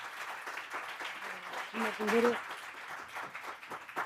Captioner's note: audience applauding